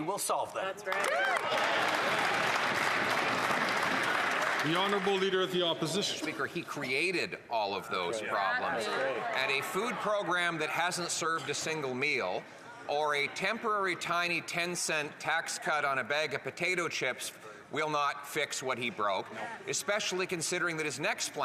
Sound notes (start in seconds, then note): 6.0 some Applause